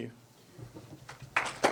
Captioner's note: audience clapping